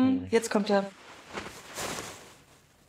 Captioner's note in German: Rascheln